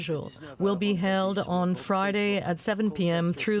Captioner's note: speaking French